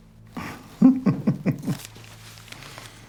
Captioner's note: laughs